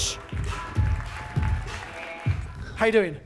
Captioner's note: audience claps